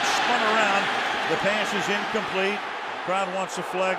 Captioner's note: booing